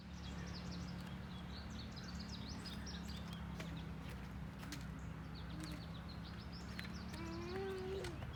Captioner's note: birds chirping